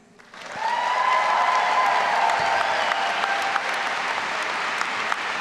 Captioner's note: all applauding and cheering